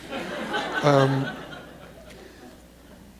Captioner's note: laughter